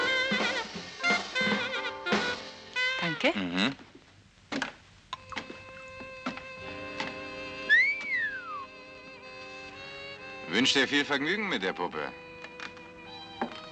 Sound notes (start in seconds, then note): 4.3 slow music; 7.6 Bob whistling